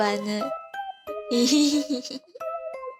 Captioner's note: laughs